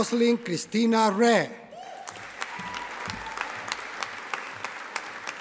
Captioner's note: audience applauding